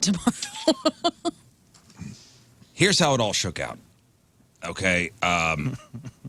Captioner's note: laughing